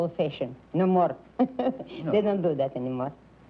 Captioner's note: laughs